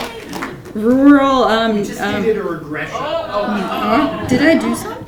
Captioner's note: laughing and clapping; people mumbling